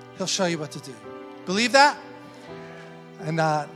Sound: congregants affirming

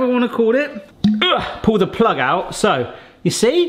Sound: plug pops; grunts

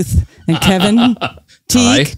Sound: laughing

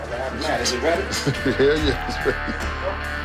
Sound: laughing

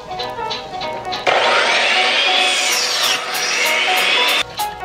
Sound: power saw running

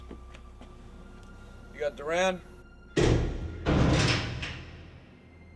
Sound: clanking

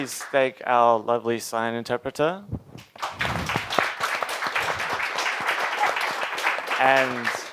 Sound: applause

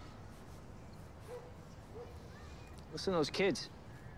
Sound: dog barking; kids playing

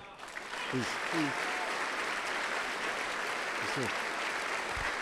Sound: applause

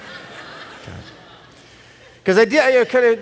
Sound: laughter

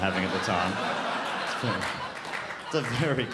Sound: crowd laughs

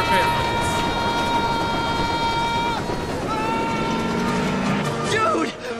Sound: screaming continues

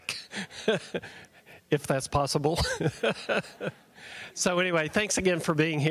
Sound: chuckling

